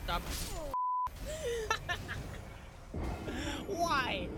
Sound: laughs

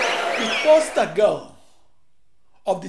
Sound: wild applause and cheering for 22 seconds

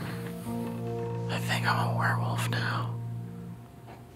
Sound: whispering

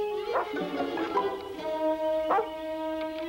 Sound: Shep barking

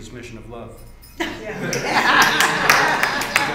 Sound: laughter

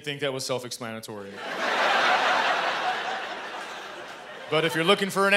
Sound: laughter

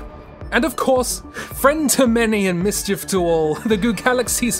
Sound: chuckles

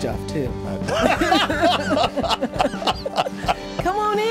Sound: both laugh

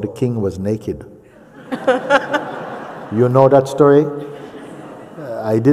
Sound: laughter

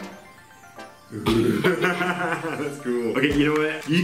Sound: laughing

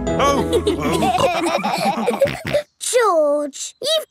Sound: all laughing

